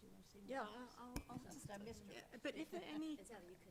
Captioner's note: chatter